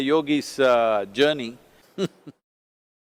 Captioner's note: laughs